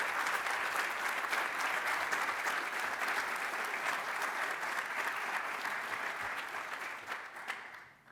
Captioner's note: applause